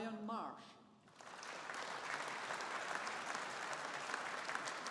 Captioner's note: audience applauding